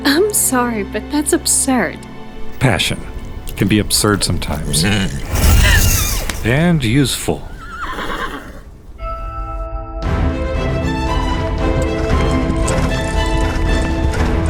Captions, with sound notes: - I'm sorry, but that's absurd. - Passion can be absurd sometimes. (horse grunts) (magic whooshes) And useful. (horse neighs) (dramatic orchestral music)